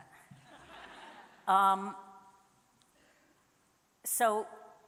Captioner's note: audience laughing